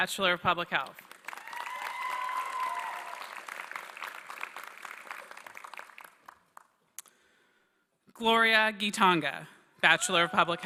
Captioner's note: applause